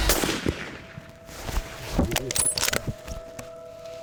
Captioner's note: rifle blasting